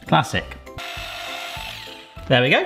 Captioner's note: whisk whirring